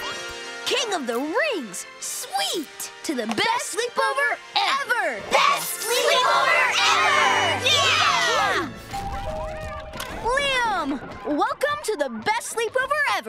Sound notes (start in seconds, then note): 8.6 doorbell ringing